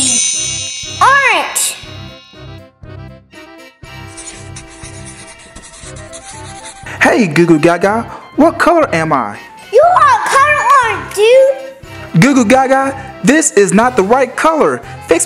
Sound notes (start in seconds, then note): 0.0 magic wand; 2.2 carnival music; 4.0 coloring scratching